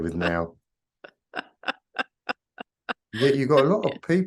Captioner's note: laughing